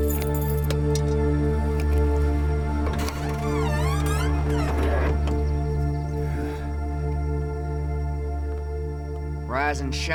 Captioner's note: flies buzzing